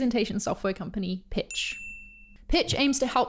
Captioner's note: high pitched ding sounds